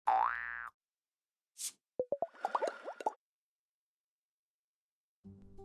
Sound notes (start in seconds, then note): 0.6 air whooshing; 2.0 bubbles popping